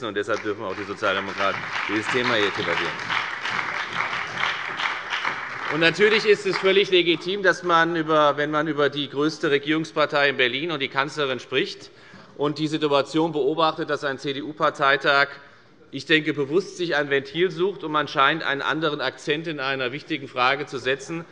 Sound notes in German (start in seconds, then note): 3.2 Beifall bei der FDP, der SPD und der LINKEN